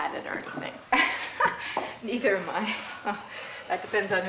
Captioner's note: chuckles